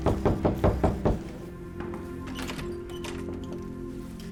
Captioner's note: loud knocking